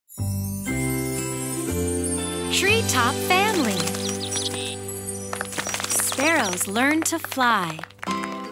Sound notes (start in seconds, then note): 0.6 cheerful music; 5.2 clapping